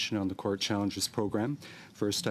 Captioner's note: speaking French